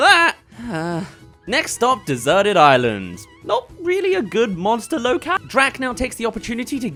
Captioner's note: sigh